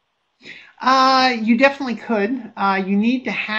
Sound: voiceover

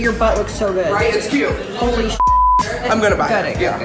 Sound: beep

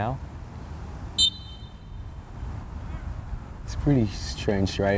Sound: whistle blows

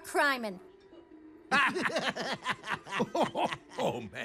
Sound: all laughing

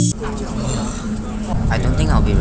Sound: sigh

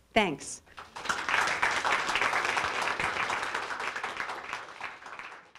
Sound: applause

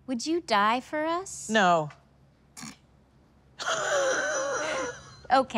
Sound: laughing

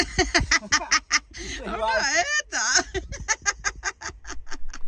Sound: laughing

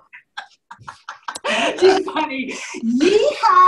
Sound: laughter

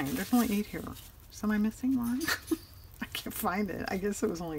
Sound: laughs

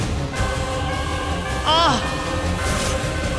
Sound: screaming

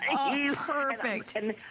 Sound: laughter

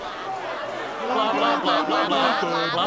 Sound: crowd murmuring

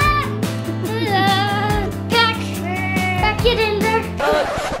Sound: laughing

